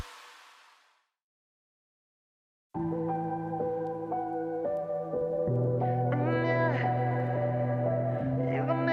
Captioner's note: upbeat music; speaking in foreign language